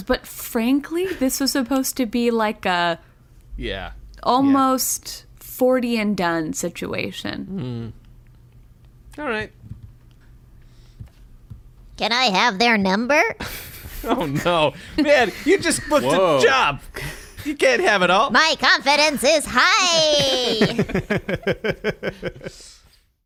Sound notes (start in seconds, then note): 11.0 robot voice